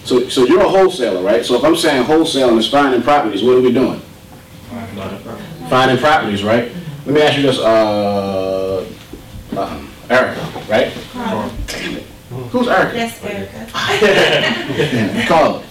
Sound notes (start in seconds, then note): 4.9 voiceover; 11.3 voiceover; 13.8 audience laughter